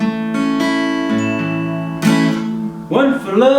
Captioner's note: alarm Sounds